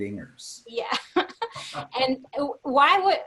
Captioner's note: laughs